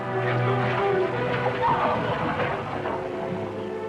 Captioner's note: clamouring, screaming